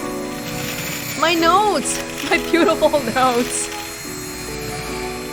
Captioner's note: chuckles